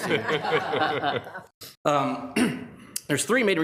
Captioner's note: laugh